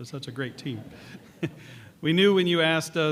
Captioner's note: laughter